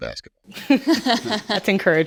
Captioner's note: all laughs